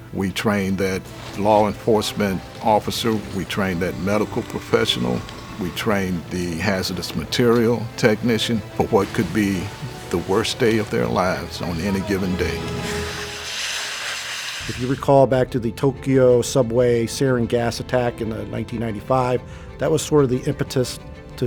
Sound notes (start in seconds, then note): 13.3 water hissing